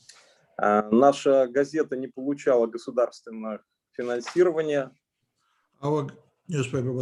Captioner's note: speaking Russian language